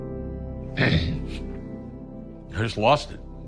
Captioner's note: clears throat